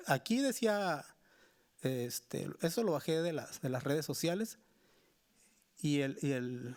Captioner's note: speaking Spanish continues